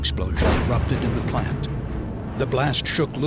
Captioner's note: sound of explosion